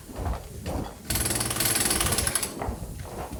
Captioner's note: drilling